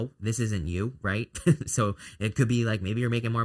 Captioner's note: chuckles